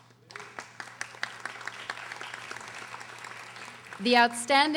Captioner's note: audience applauding